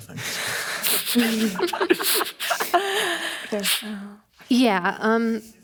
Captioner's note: audience laughing